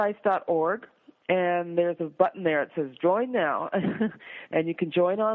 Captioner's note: laughs